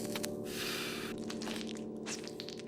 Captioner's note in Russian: склизкий звук